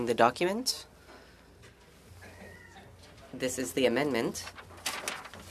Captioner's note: speaking French